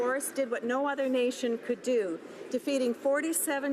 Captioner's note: none